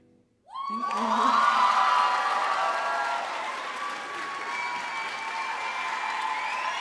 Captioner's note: cheering and applause